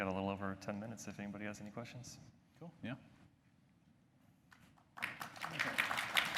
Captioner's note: applause